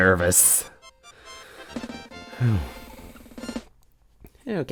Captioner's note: breathing